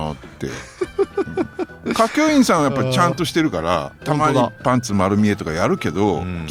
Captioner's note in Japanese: 笑い